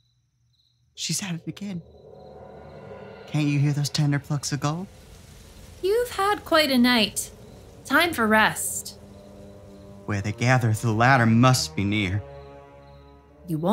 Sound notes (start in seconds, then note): 5.0 wind blows leafy trees; 9.0 dramatic music